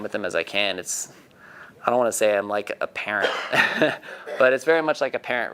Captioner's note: laughing